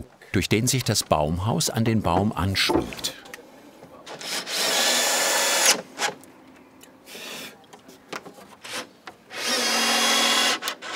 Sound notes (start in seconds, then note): 4.3 buzzing